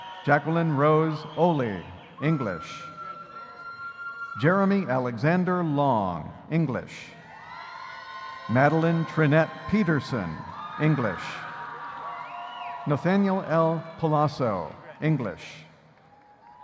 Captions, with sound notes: Jacquelyn Rose Olle, English. Jeremy Alexander Long, English. (audience cheering) Madeline Trinette Peterson, English. Nathanael L. Paolasso, English.